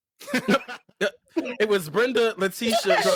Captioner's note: laughing